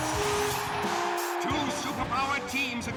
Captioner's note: crowd cheers